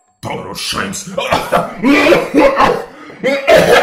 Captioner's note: coughing, because of that stupid joyke 💀💀💀